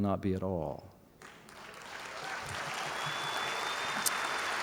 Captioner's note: applause